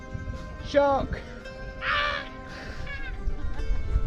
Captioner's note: screams